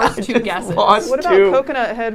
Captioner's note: laughing